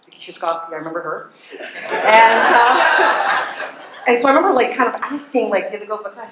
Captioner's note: laughter